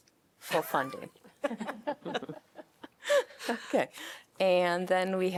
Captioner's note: laughter